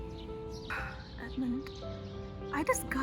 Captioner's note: sigh